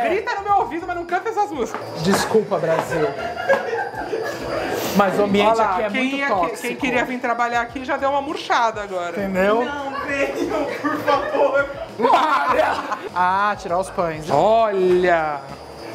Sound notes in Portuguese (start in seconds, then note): 3.0 risos; 11.9 risos